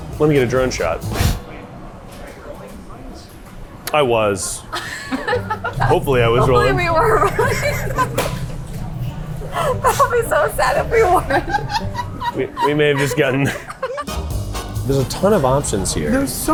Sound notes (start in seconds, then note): 4.7 laughing; 9.4 laughing